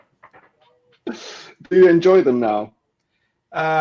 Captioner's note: laughs